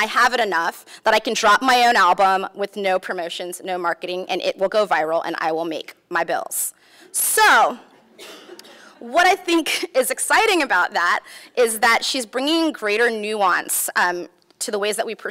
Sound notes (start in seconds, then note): 8.9 laughs